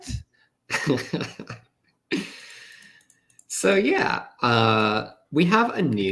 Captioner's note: chuckles